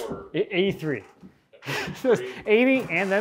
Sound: laughs

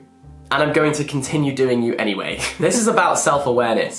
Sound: chuckles

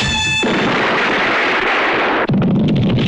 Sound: explosion

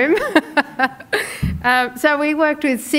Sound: laughing

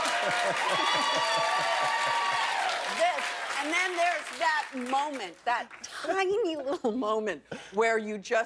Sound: cheers and applause

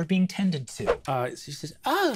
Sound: swooshing sound

